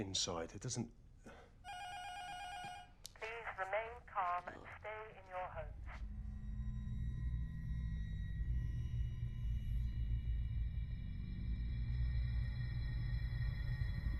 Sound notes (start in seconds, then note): 3.4 intercom buzzer rings; 5.3 intercom